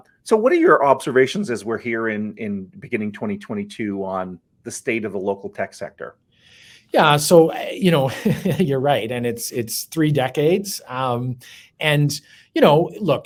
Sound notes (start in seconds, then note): 8.0 chuckles